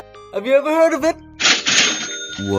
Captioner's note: big money cash register sounds